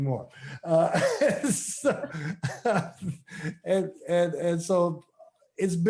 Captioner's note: laughs